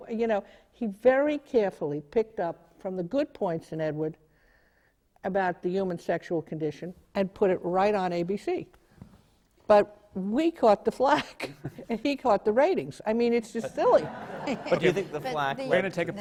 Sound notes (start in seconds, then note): 13.6 laughter